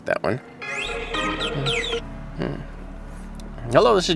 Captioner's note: phone ringing